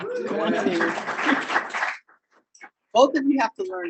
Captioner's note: audience applauding